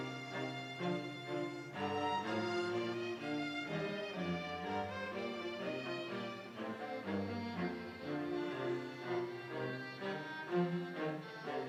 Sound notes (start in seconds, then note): none